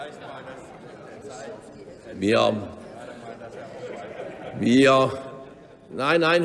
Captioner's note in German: Zuruf des Bundesministers Sigmar Gabriel